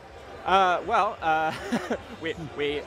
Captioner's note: chuckling